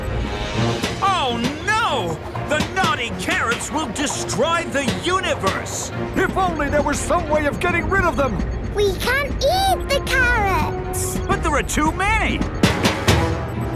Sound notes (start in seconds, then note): none